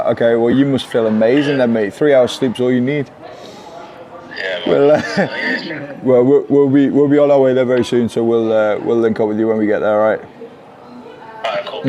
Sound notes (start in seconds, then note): 4.3 laughs